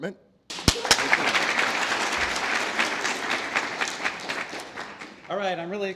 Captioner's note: applause